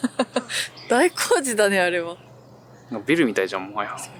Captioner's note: laughs